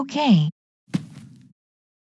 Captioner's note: footsteps